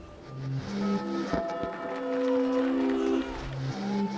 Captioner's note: bells ringing